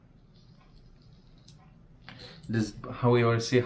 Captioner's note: orange squelches